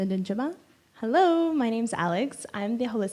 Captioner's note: in English